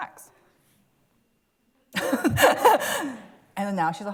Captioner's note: laughs